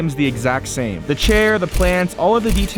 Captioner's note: flash snapping